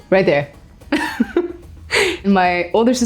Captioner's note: laughs